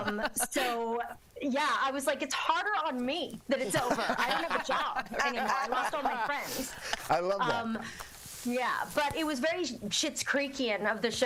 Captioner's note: laughter